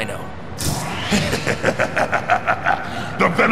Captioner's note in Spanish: Se Ríe